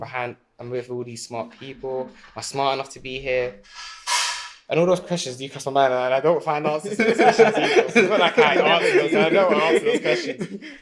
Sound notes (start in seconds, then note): 6.6 laughing